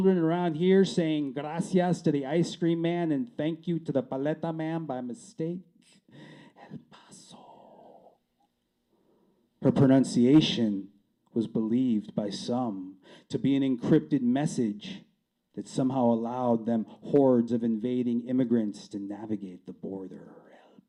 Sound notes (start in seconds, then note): 6.1 whispering